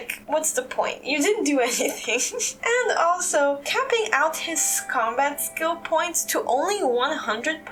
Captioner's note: laugh